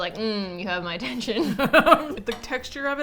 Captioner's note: both laugh